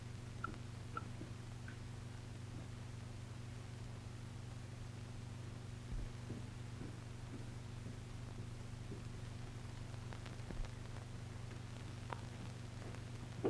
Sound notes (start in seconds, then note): none